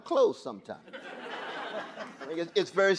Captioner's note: audience laughing